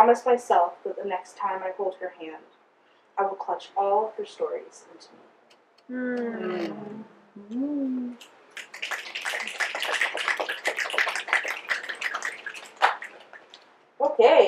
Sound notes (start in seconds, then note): 6.0 audience mmm and snaps